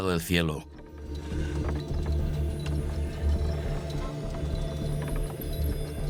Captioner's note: dramatic music; wood creaking